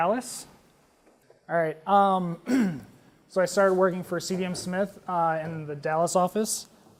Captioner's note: cough